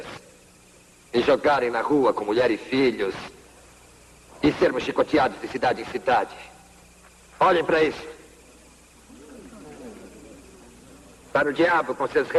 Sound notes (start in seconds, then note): 9.0 murmuring and gasping